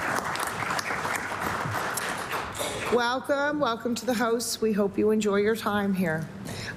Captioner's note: applause